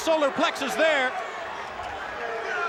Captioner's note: applause